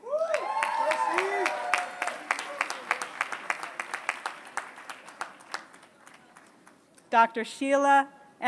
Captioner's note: applause